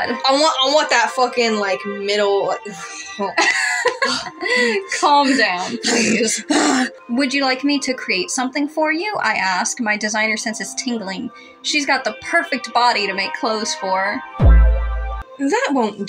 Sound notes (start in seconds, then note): 2.7 laugh; 14.4 rizz Sound Effect